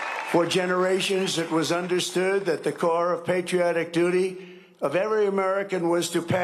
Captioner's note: cheering and applause